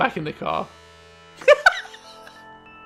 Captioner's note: laughter